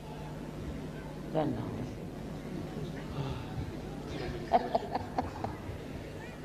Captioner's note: shri mataji laughs